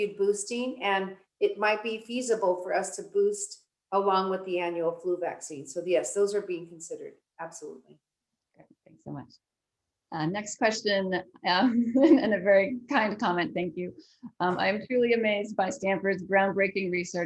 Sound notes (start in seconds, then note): 10.5 laugh